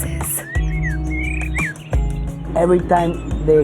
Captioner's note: sounds of birds chirping